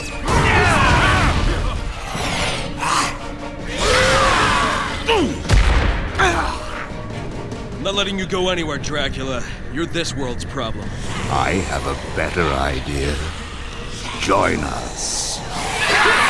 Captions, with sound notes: [GRUNTS] Ah! I'm not letting you go anywhere, Dracula. You're this world's problem. I have a better idea. Join us. Ha!